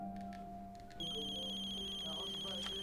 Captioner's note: phone ringing; foreign language music on stereo